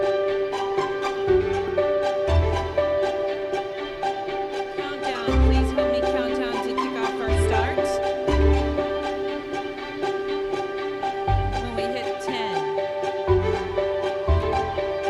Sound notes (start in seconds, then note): 6.3 faintly speaking